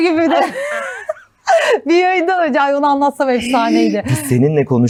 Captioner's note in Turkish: kahkaha